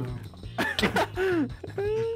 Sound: laughing

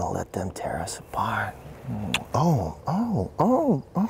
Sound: kissing Sounds and Moaning

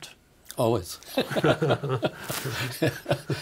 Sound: both laughing

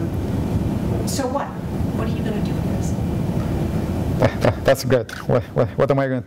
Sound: laugh

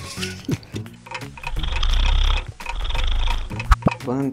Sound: buzzer buzzes; clock ticking

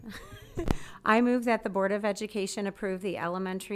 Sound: laughs

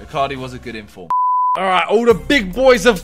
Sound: beep

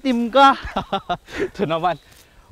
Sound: laughs

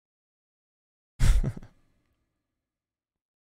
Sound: chuckles

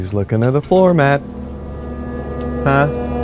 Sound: suspenseful whine

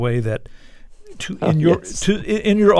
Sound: laughter

